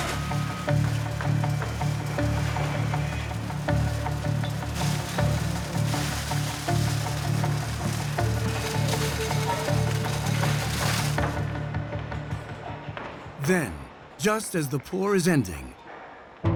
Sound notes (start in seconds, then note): 6.5 concrete pouring